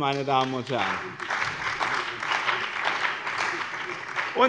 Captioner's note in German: Beifall bei dem BÜNDNIS 90/DIE GRÜNEN und der CDU